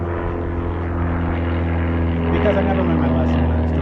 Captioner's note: plane buzzing